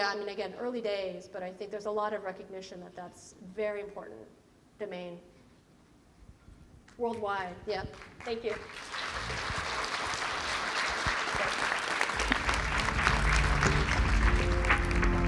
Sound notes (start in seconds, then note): 8.1 audience applauding; 12.8 electronic music